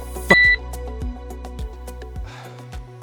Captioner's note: beep; sigh